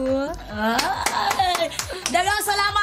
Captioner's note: clapping